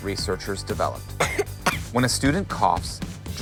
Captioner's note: person coughing